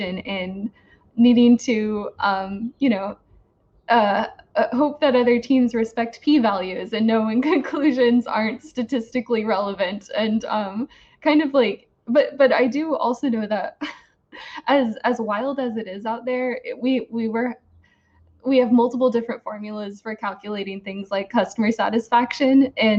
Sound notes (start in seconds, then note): 6.6 laughs; 13.6 giggles